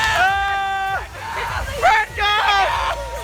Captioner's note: screams